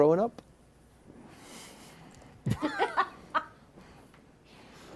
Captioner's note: laughter